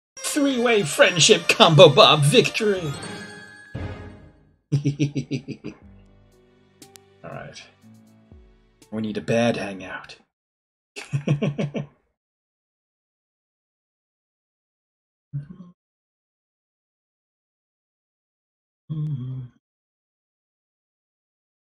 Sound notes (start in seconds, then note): 4.7 chuckles; 10.8 laughs